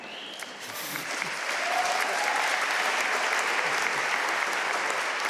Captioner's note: audience laughing; audience cheering and applauding